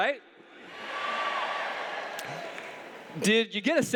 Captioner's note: cheers